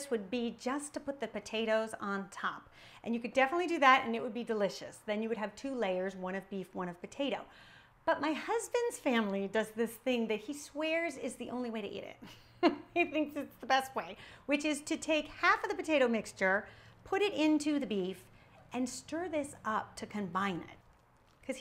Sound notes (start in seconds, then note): 12.3 chuckling